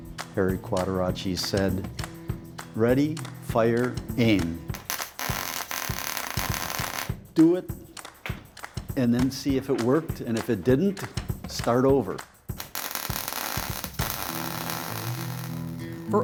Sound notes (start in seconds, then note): 4.7 soldering iron crackling; 12.5 soldering iron crackling